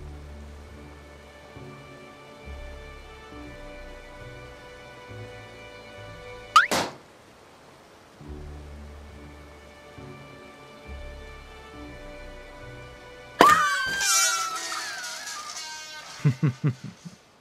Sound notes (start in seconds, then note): 0.0 soft orchestral music; 6.5 balloon pops; 13.4 girl screams; 13.4 balloon pops; 16.2 Airrack chuckles